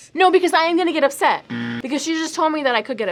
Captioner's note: buzzer rings